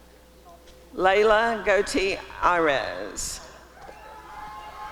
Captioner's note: applause and cheering